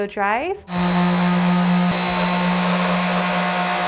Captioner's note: whirring